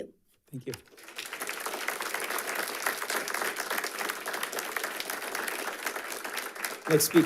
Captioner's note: audience applauding